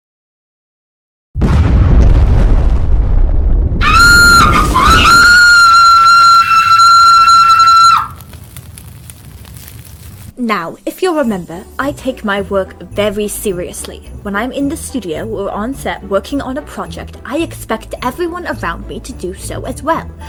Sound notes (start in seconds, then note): 1.4 fire crackling